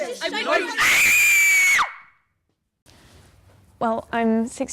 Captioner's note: screaming